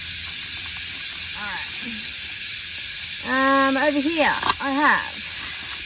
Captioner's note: velcro noise on pocket